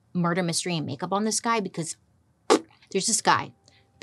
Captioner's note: blows raspberry